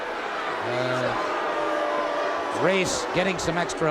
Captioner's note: crowd boos